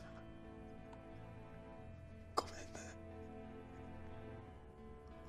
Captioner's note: Japanese